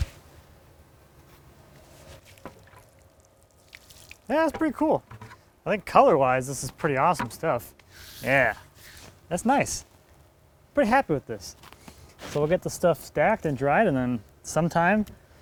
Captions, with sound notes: (water splashing) Yeah, it's pretty cool. I think color wise, this is pretty awesome stuff. Yeah. That's nice. Pretty happy with this. So we'll get the stuff stacked and dried and then sometime